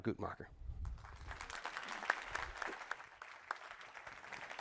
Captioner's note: applause